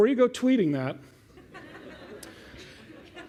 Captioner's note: laughter